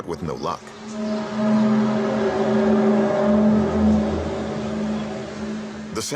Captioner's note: groaning sound